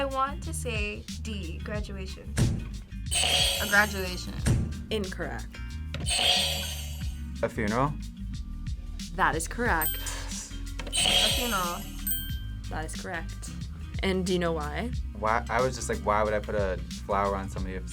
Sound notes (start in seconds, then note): 3.1 buzzer rings; 6.0 buzzer rings; 10.2 whispers; 10.9 buzzer rings